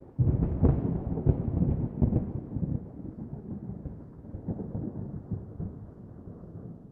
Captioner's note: thunder